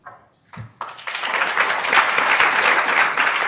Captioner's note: applauding